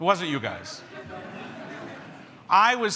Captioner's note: everyone chuckles